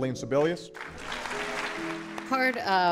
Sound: all clapping

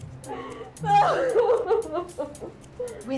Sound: woman sobbing

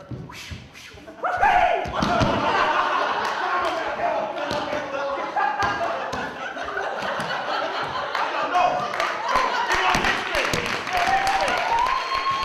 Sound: cheering

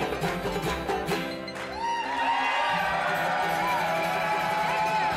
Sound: audience cheering

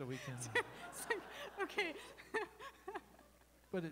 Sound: laughter

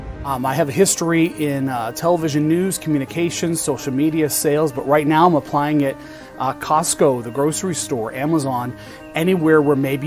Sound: speaking non-english

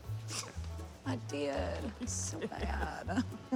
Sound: laughs; laughter

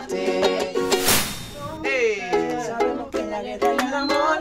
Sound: elevator dings

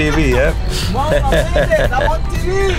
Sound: both laugh

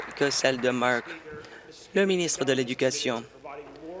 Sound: applause

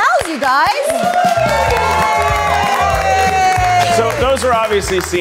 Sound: audience cheering

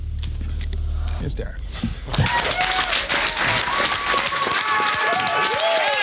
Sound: applause

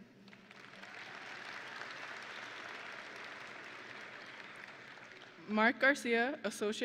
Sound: audience and graduates applauding

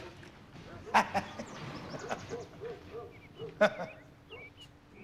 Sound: <i> calgari laughing</i>

